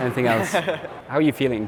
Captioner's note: laughing